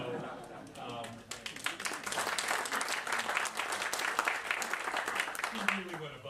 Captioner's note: applause